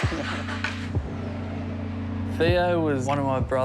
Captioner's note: engine turns